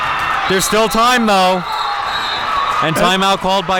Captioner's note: audience cheering; whistle blowing